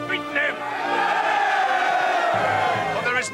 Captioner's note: all cheer